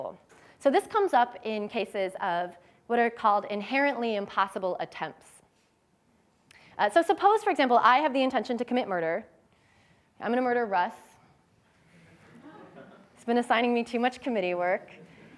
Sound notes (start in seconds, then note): 12.0 laughter